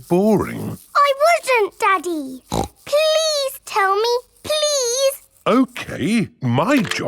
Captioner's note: snorts